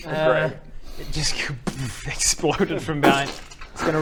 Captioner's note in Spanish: kaboom